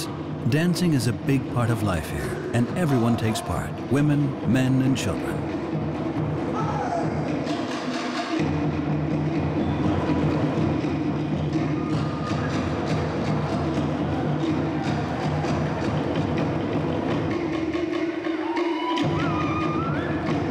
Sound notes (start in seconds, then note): 5.7 drumming continues; 5.7 man shouts; 19.0 shouts